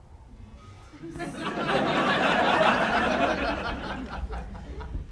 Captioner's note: laughter